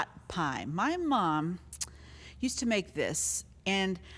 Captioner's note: mouth clicking